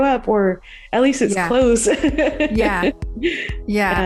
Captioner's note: laughs